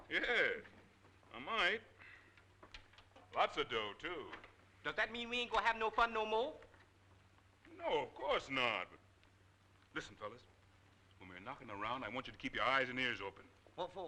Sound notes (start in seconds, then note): none